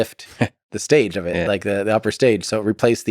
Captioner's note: Lex laughs